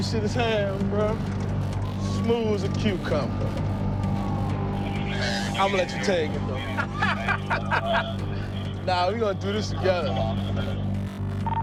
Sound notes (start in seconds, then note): 3.5 dramatic music; 6.3 laughs